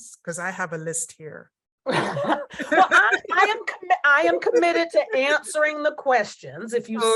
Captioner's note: laughter